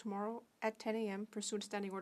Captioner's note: speaking French